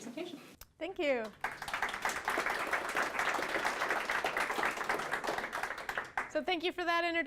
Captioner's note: applause